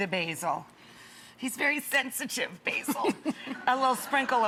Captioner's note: guest laughs